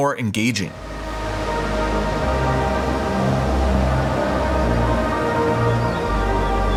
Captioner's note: dramatic music; boat engine revving